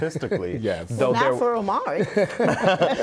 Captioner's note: laughing